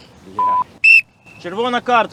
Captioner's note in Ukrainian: звук свистка